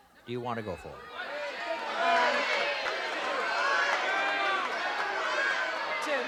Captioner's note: audience yelling